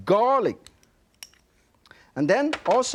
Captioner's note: spoon clanking